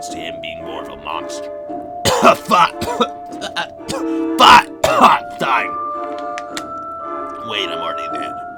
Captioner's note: coughing